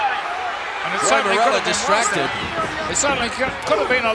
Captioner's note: mumbling